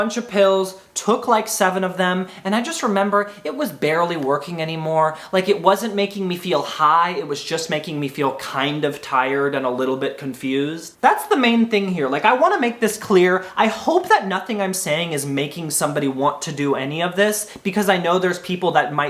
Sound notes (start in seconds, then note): none